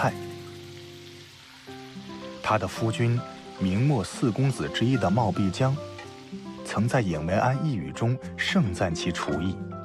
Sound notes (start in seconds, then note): 4.9 simmering, and steaming